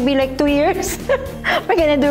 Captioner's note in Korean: 웃음